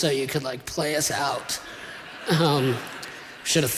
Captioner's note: laughter